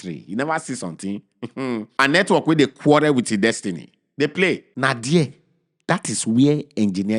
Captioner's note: chuckles